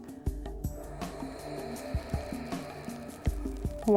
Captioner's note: breathes